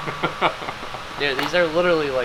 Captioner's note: laughing